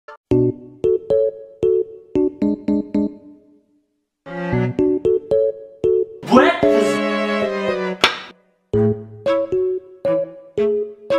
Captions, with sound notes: BEKFIST lol *SLAP* da fuq